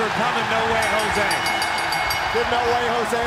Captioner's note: bell ringing; crowd cheering